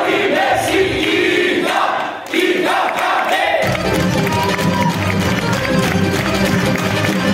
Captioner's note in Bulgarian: аплодисменти